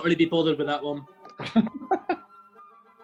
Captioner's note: laughing